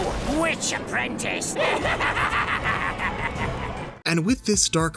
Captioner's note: cackling